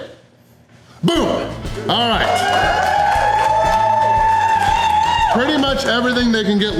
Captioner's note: crowd cheering